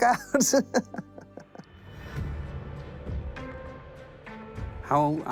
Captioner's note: laughs